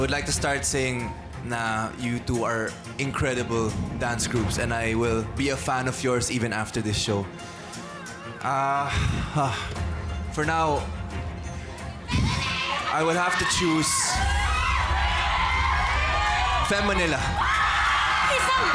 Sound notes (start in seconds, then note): 7.4 sighs; 12.2 huffs; 14.8 overlapping screaming